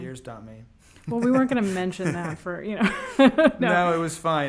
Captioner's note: laughs